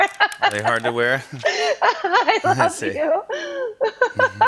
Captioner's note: laughs